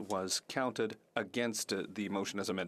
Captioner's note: speaking French